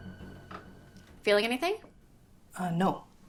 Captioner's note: door rattling